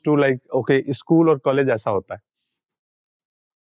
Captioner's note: speaking in Hindi